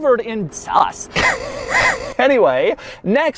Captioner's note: wheezing + in reverse